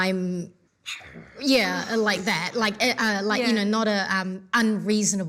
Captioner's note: growls